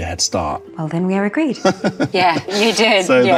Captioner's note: Luke laughs